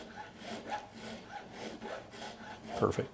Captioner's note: file scraping